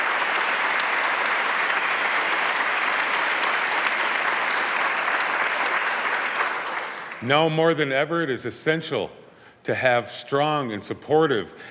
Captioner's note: applause